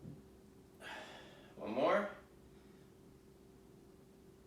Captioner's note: exhaling